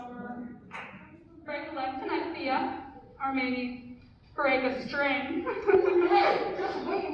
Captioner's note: laughs